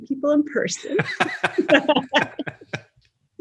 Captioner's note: laughs